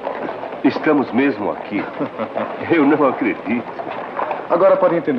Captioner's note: chuckles